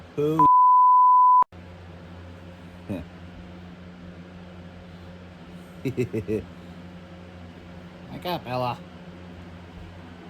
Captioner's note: Ella laughs